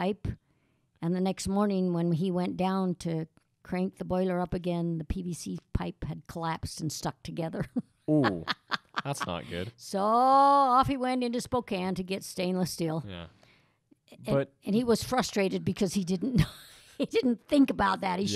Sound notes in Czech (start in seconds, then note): 8.1 Chichotá se